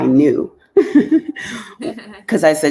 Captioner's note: chuckling